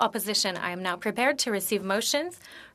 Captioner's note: speaking French